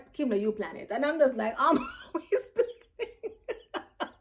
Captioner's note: laughs